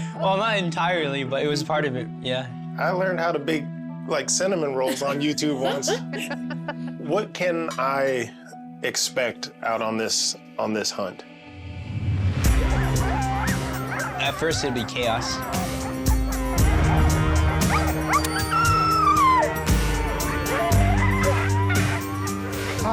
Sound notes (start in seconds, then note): 4.8 laughing; 11.6 intense music; 12.8 dogs barking; 15.6 dogs barking, yelping